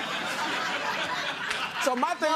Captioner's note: laughter